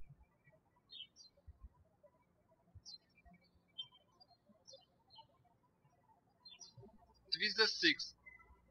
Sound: birds chirping

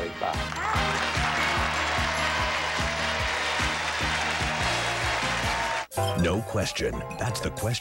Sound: audience applauding

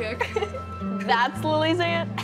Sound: laughing

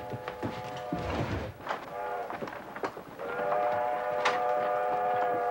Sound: train horn whistling

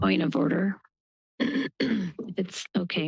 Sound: clears throat

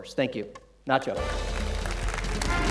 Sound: applause

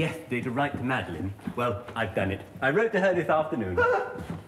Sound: whimpering

